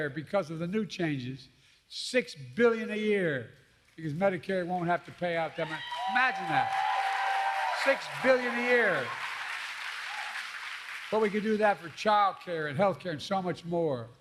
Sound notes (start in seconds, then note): 5.3 applause